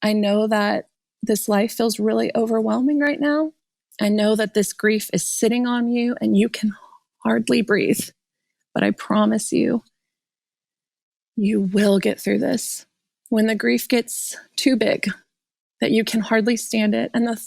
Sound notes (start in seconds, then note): none